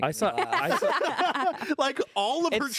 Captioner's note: everyone laughs